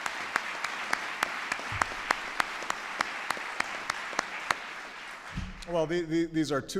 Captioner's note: applause